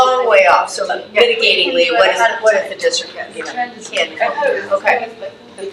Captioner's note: faintly speaking